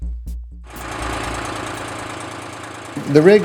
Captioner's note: truck running